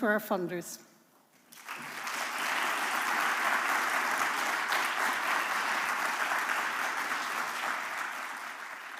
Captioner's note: applause